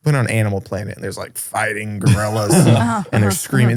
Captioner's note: laughs